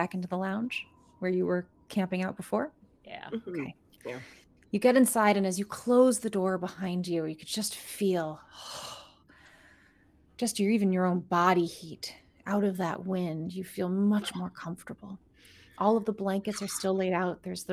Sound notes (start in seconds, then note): 9.6 sighs